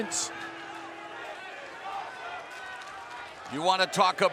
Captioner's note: fans chanting